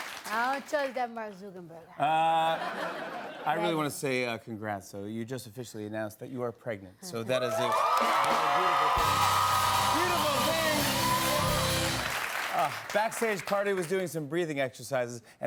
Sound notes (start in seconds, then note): 2.4 laughter; 7.4 cheers and applause